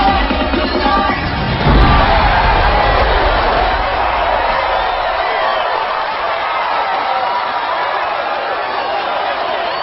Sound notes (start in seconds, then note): 1.7 crowd cheering wildly